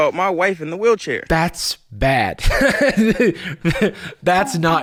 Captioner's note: laughs